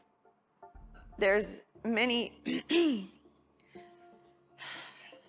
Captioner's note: clears throat; sighs